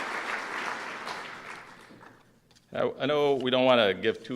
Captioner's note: applause